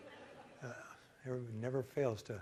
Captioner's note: laughter